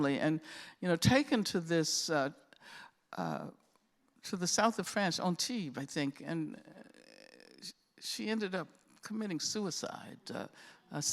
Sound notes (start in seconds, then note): none